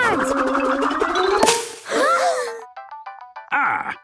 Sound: all gasping

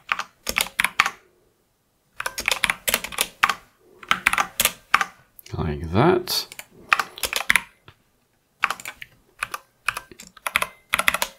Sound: typing

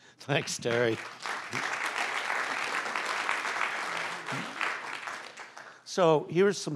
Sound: applause

